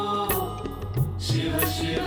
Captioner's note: none